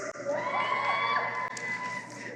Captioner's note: cheering